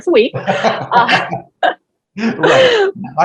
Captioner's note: both laughs